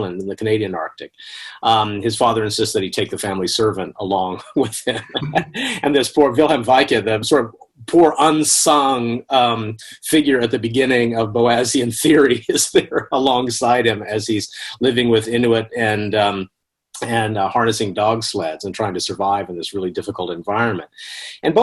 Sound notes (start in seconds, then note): 4.5 laughs